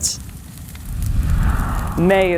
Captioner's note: fires crackle